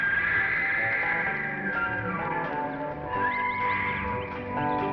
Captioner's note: high-pitched call